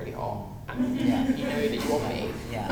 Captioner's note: audience laughter